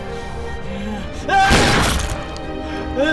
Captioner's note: gunshot